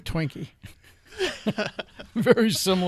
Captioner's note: laughing